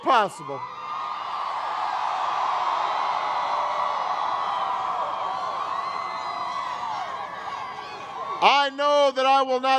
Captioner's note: crowd cheers